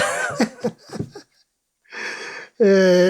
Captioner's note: laughter